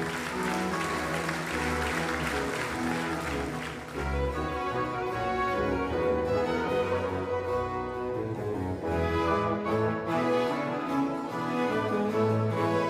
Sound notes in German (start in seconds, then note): 3.4 Applaus verklingt